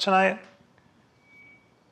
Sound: silence

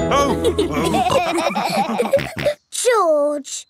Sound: all laughing

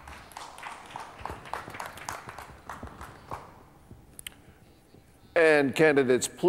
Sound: light applause

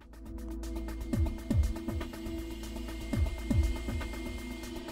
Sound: printer whirring

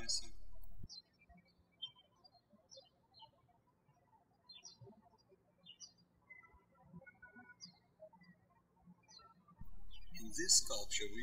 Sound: birds chirping

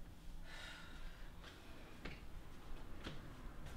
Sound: Leanna sighs

